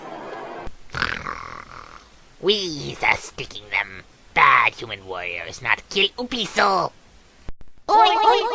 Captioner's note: snarls